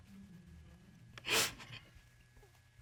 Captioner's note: sniffles